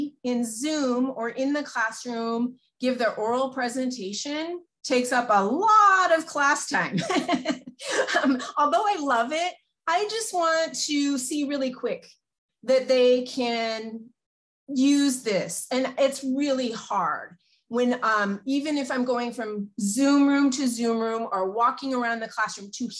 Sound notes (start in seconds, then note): 6.9 laughs